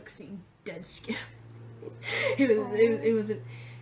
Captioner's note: laughing